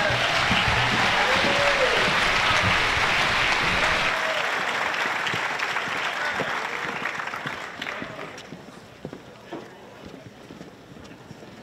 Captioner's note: applause